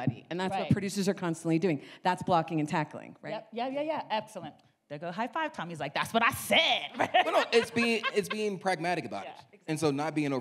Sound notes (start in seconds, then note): 6.9 laughs